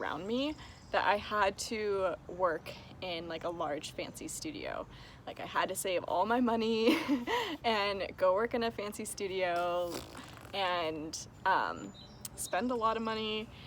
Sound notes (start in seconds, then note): 6.6 laughs; 9.6 blows raspberry